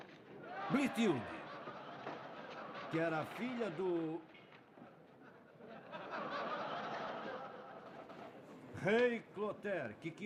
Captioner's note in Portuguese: risadas